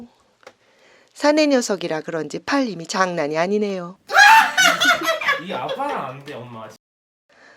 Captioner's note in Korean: 웃음